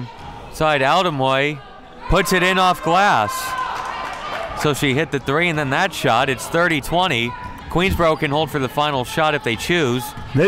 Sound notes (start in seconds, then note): 3.5 crowd clapping